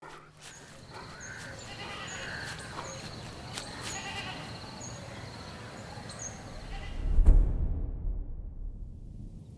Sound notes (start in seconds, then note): 0.0 dogs pant; 1.3 goat bleats in the background